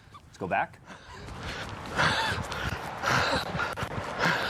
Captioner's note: officer panting